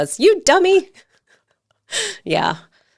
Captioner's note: laughing